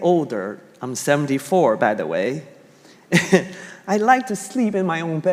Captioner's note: chuckling